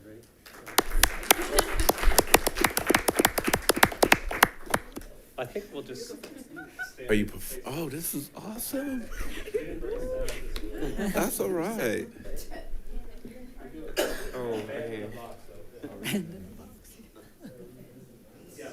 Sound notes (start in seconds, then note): 0.4 attendees applaud; 14.2 students chattering